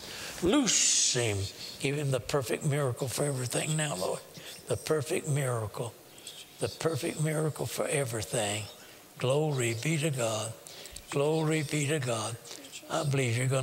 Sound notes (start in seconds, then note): 4.3 whispering; 12.5 whispering